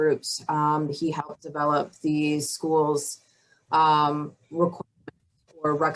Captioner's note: audio blurs